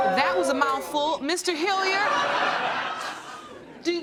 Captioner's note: laughter